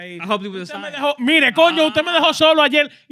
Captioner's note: speaking In Foreign Language